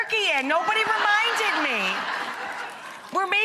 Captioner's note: audience laughing